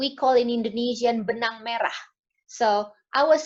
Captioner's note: speaks foreign language